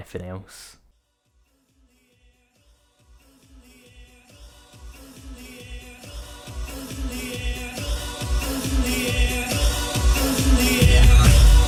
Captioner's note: audience cheers, slow build up of song